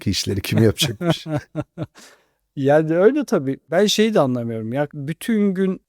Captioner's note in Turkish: kahkaha